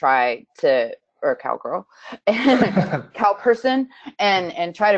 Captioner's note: giggles